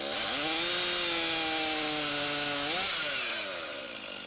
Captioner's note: chainsaw whirs